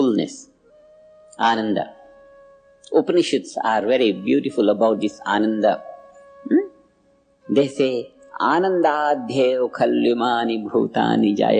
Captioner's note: in Sanskrit